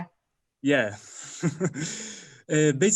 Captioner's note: laughs